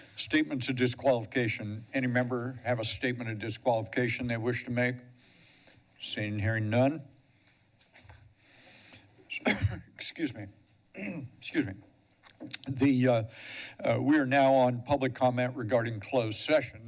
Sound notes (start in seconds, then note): 5.1 breathes steadily; 7.2 pause; 8.4 exhales; 9.3 cough; 10.9 clear throat; 12.2 smacks lips